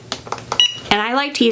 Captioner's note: machine creaking; machine beeping